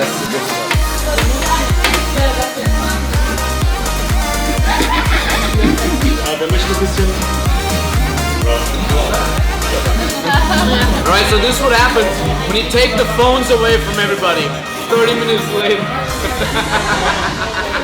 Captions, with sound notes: That's the good stuff. (upbeat music) (group chatting) - All right, so this is what happens when you take the phones away from everybody. 30 minutes later. (laughs)